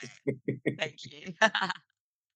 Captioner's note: laughs